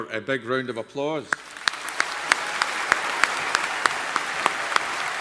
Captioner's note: audience applauding